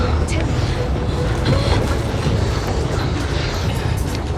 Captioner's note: gasping